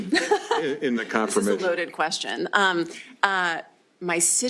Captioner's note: laughs